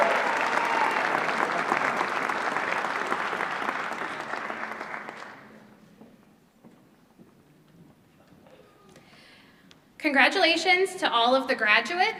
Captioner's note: applause